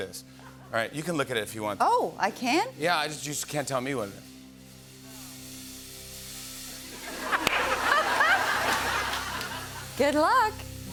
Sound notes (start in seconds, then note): 4.4 suspenseful music plays; 6.9 laughter and applause